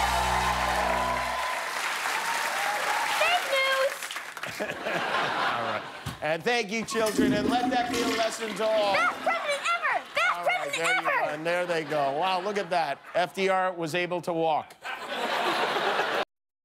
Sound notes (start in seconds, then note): 2.6 cheers and applause